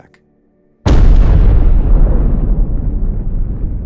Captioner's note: bang echoing thunderously